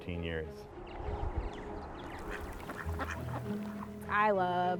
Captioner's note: birds chirping